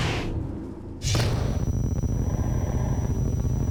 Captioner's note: computerized humming